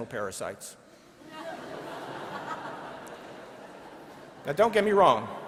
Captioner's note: laughing